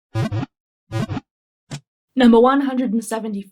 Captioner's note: Pokeball wiggle sound